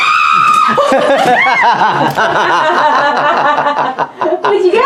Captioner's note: laughs